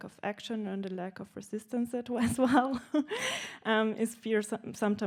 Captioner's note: laughing